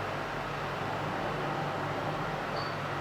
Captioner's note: distant machine noise